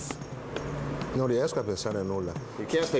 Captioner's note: speaking foreign language